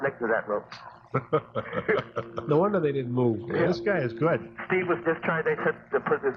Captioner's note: laughter